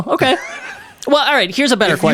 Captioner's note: laughs